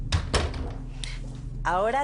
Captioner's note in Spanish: Sonido al cerrar la puerta